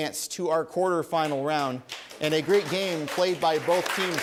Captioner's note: applause